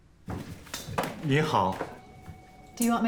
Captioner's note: Jian speaking in Mandarin